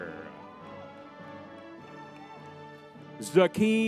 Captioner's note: crowd cheering